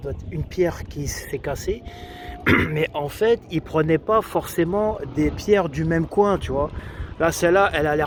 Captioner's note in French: raclement de gorge